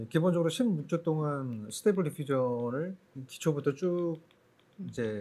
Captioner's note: speaking korean